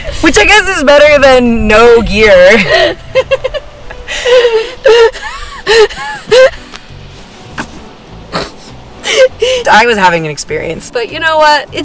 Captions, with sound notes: Which I guess is better than no gear. (women laughing) I was having an experience. - But you know what?